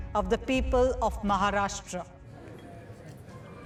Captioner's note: murmurs